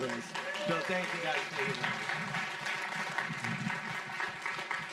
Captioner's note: audience clapping